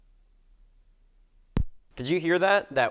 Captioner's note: low tap noise